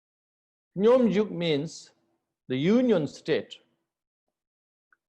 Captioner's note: tibetan